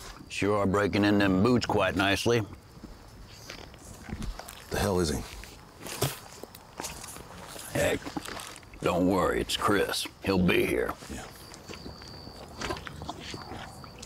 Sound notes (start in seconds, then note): 5.7 mouth spits